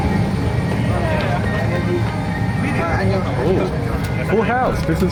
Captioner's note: passengers talking